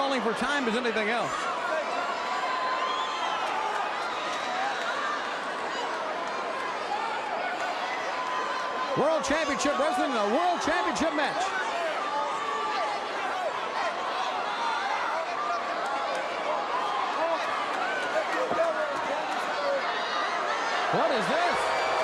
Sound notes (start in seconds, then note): 2.2 crowd cheering; 12.2 crowd cheering